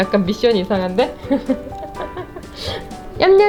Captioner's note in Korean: 웃음